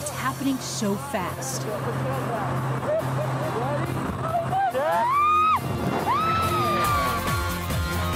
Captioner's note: wind rushes; screams